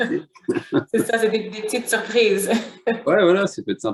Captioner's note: laughter